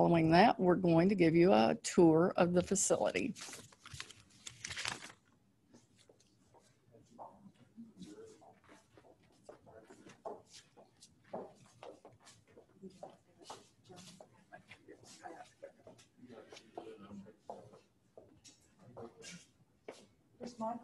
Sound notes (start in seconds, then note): 5.0 background chatter